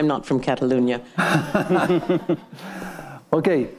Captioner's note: all laughing